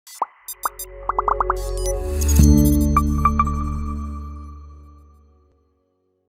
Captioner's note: logo bleeping and blooping; ethereal music